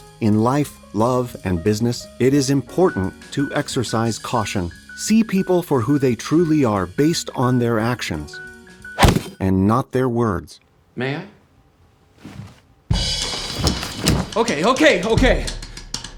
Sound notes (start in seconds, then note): 9.0 crowbar thuds; 13.2 jazz drum music